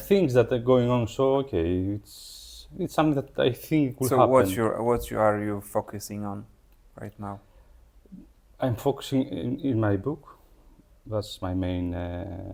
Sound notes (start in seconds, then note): none